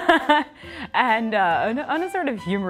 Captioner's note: laughter